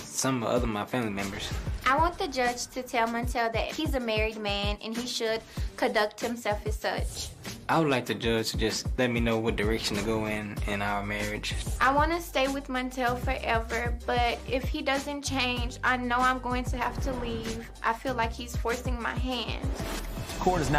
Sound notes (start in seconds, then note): none